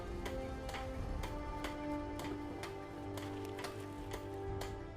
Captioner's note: hammering in background